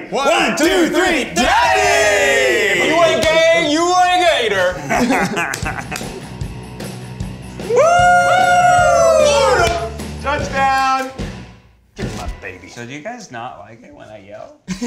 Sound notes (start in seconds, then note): 4.7 Ned laughs; 6.4 upbeat music; 7.5 group cheers